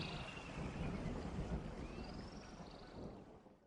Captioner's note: thunder